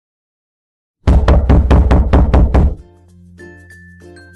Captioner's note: loud pounding on door